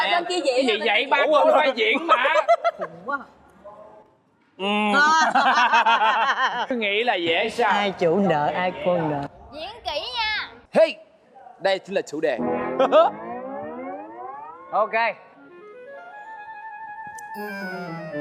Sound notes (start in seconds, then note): 5.3 hysterical laughter